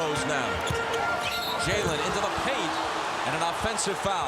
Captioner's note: whistle blows